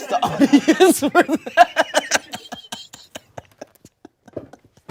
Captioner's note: everyone laughs